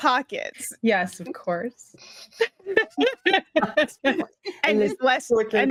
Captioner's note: cast members laughing